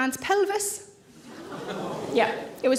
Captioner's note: audience gasp